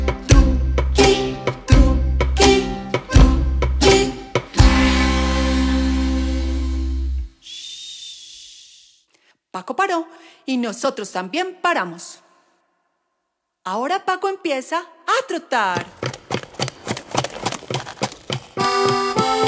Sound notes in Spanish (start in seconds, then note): 7.4 Shhhh